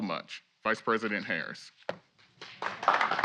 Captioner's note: applause